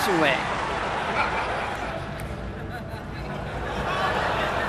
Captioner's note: audience laughter